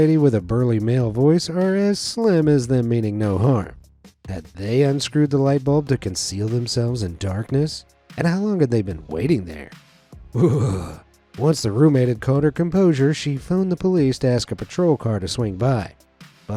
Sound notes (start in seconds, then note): 10.3 narrator shuddering